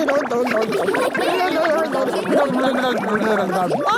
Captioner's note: children laughing